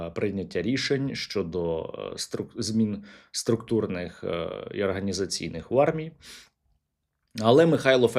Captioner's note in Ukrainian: сопіння